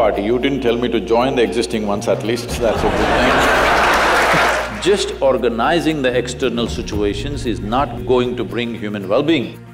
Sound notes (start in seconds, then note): 2.5 laughter/Applause